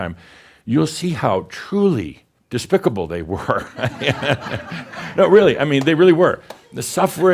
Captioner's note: laughter